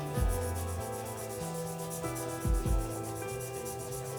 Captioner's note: nail filing